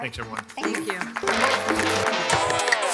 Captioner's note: audience clapping; upbeat music